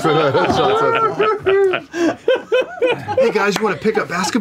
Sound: laughter

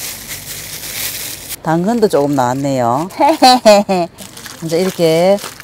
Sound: haha

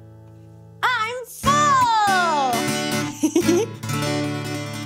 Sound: giggles; guitar flourish

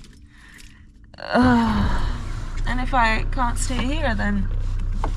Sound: sighs

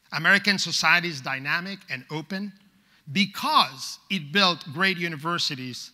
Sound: none

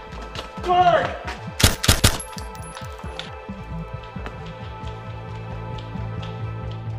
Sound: gun firing

